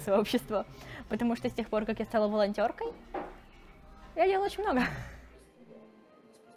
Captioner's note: laughs